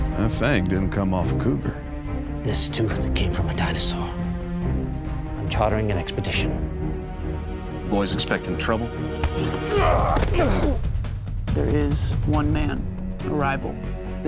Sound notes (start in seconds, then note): 7.0 tense music; 9.2 grunt, thud